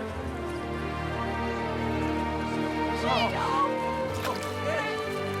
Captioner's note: cheering